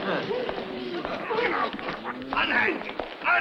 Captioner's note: audience laughs; men shuffling